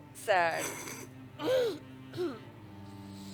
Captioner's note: suppresses a laugh